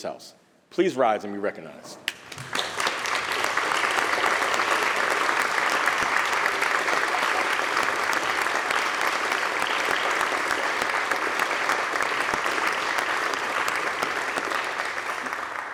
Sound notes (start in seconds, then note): 2.0 applause